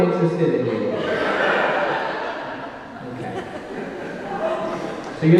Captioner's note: audience laughing